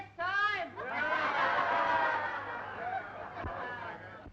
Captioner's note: cheering